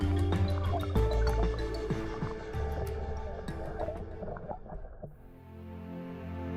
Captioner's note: lively music; water burbling; gentle dramatic music